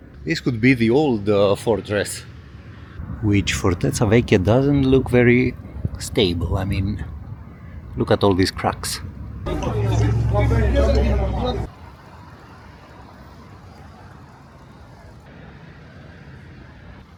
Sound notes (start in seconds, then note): 9.4 People Chattering